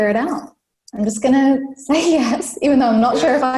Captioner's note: laughs